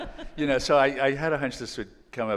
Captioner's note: laughing